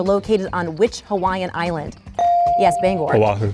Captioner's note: bell dings